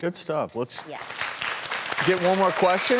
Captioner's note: audience clapping